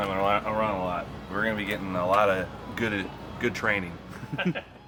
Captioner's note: laughs